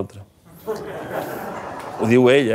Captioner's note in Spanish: risas